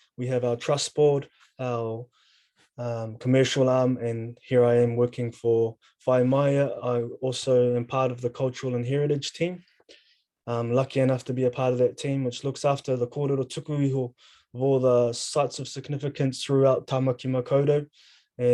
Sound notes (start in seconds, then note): 13.2 speaking in foreign language